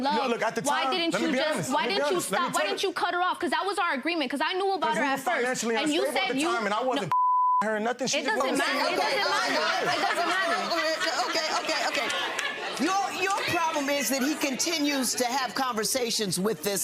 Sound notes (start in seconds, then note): 7.1 beep; 11.1 audience exclaiming